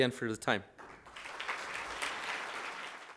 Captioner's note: audience applauding